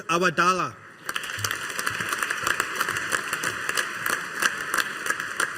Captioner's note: audience applauding